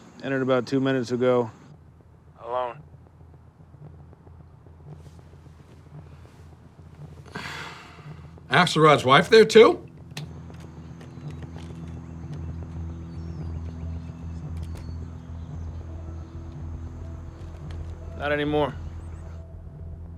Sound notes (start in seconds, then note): 7.3 Chuck sighing; 12.6 birds chirping; 12.6 door clicking shut